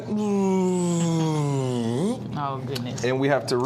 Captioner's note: imitates whirring; chuckling